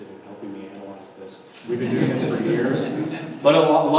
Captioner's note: audience members laugh